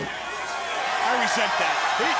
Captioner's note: crowd cheering